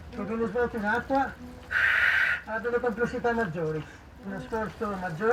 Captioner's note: speaking in foreign language